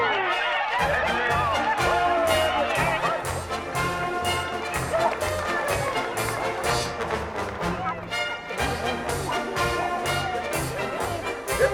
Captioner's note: crowd cheering; marching band music